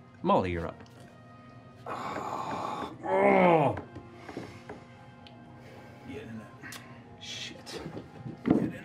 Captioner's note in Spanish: gruñido